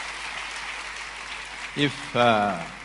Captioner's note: applause